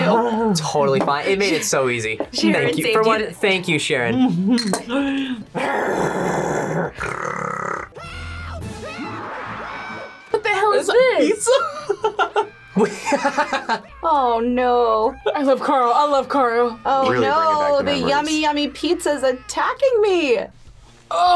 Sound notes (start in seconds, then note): 4.9 growls; 11.5 laughs